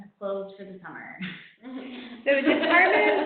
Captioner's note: laughing